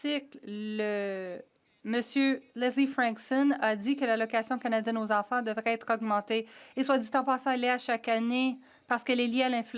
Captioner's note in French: voix de l'interprète